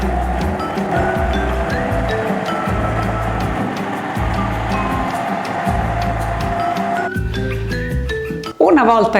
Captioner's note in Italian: Applauso